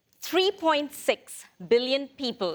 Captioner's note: none